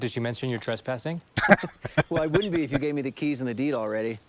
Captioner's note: laughing